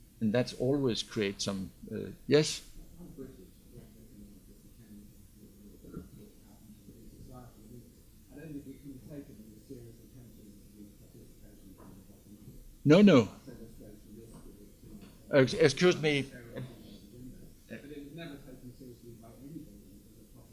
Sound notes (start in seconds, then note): 3.3 student speaking faintly; 13.5 student speaking faintly; 16.6 student speaking faintly